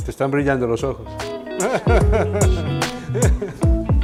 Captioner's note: laughs